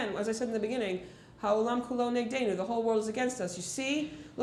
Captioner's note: speaking hebrew